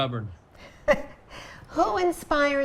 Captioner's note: laughing